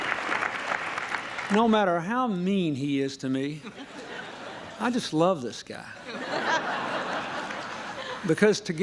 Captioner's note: applause